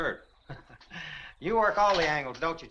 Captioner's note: Compton chuckles